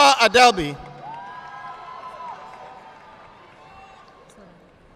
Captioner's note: audience clapping